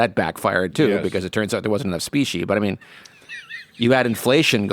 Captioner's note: laughs